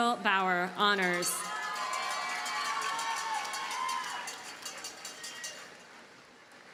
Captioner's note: audience cheers and applauds